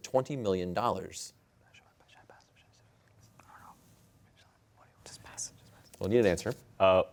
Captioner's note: all whispering